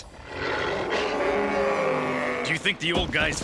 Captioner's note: roaring